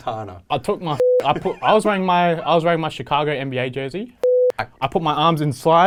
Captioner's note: beep